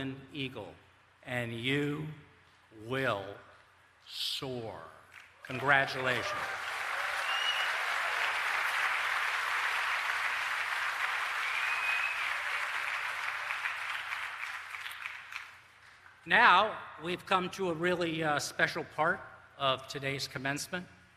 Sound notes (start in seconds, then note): 7.8 applause